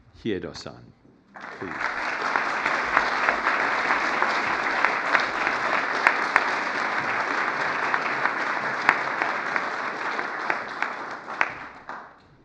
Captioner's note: foreign language